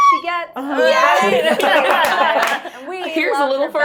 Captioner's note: laughing